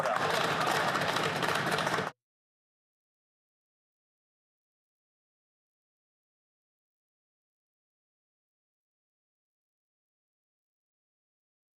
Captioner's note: some Applause